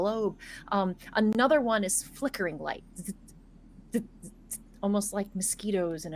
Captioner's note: mimics zapping